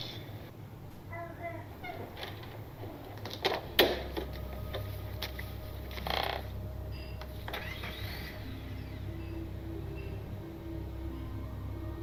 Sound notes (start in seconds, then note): 5.8 floor boards creaking; 7.0 car starts